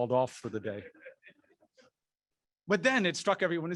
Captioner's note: chuckling